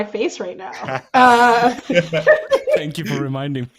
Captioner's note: all laughing